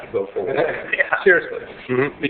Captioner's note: laughing